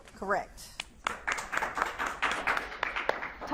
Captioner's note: audience claps